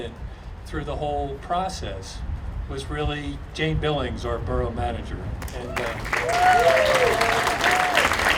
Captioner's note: audience applauding and cheering